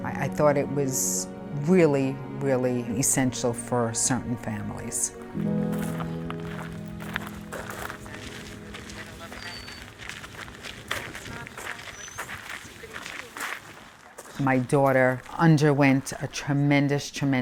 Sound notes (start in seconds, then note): 5.9 gravel crunching; 6.9 birds chirping